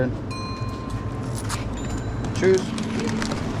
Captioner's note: coins rattling